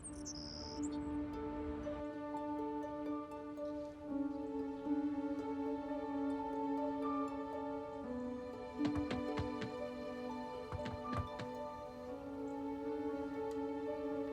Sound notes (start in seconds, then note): 0.2 peaceful orchestral music; 8.8 knocks